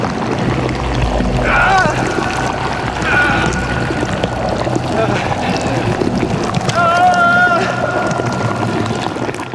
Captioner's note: various shouted sounds of distress